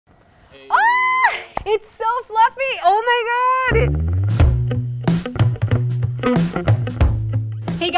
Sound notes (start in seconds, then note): 0.6 screams; 3.7 upbeat music